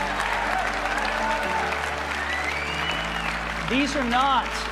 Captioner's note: audience clapping